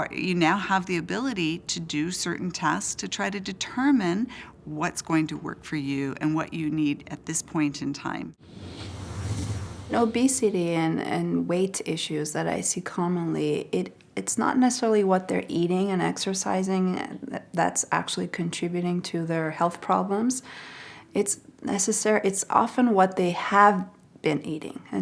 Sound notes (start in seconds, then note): 8.4 whooshing